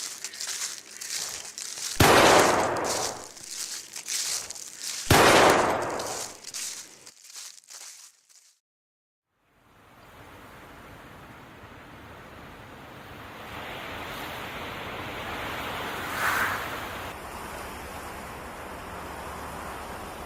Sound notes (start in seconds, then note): 2.0 gunshots; 9.5 water and wind sounds